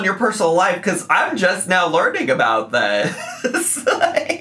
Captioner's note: giggles